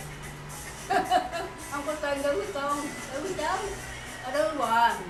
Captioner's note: laugh